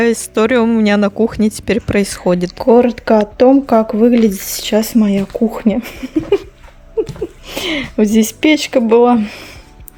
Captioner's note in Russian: смех